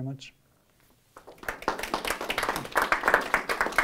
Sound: applause

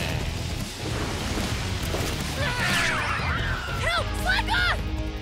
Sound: yells

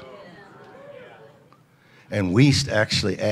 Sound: audience agreeing together

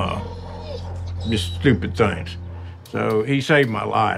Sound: Billy whining

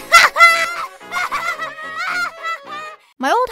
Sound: maniacal laughter

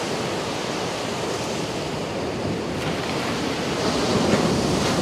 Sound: the sound of the Ocean’s waves splashing against the beach

